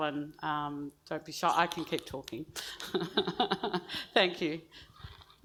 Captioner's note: laughs